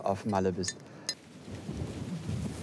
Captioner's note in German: Windrauschen